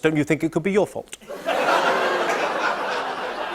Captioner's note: laughter; audience ohhs